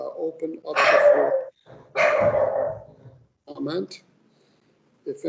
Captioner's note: dog barking loudly